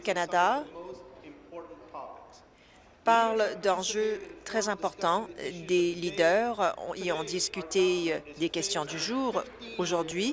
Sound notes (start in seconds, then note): none